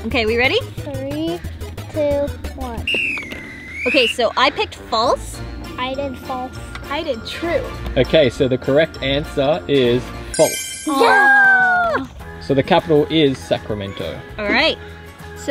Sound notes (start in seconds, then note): 2.8 whistle blows; 10.9 groans; 10.9 cheers